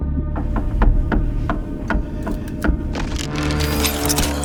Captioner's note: creaking; music intensifies